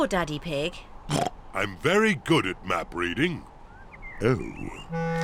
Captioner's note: oinks